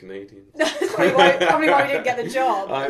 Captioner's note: both laugh